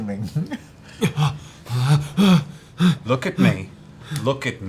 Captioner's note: scared, fast breathing